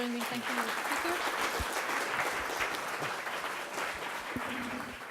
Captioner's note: applause